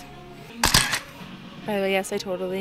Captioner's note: camera shuttering